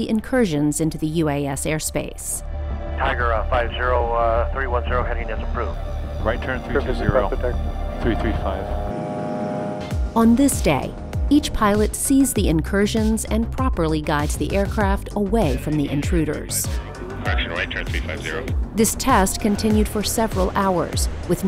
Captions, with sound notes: incursions into the UAS airspace [ radio communication ] on this day each pilot sees the incursions and properly guides the aircraft away from the intruders this test continued for several hours with